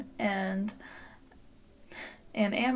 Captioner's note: chuckle